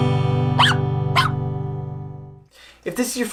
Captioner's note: puppy barking